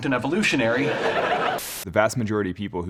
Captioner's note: audience laughing